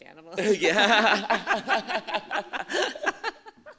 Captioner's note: laughter